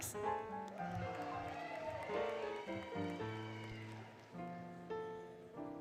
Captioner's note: applause, Cheering, Music